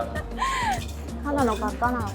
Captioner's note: laughs